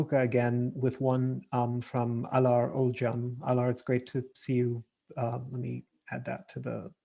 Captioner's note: murmurs